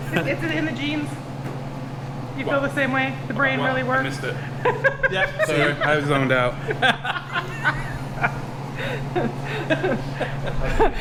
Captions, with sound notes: Is it in the genes? You feel the same way? The brain rarely works? What? I missed it. (laughing) Yeah, see? I was zoned out